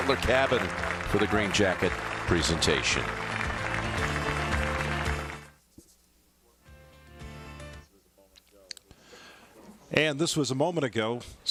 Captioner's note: cheers and applause